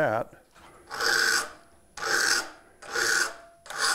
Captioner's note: metal-on-metal grinding